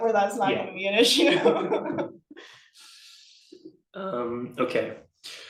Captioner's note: laughs